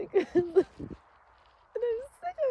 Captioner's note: sobs through words